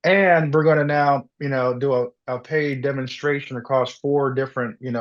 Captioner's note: none